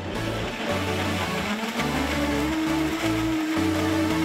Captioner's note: blender whirring